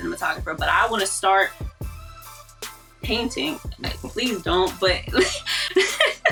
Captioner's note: laughs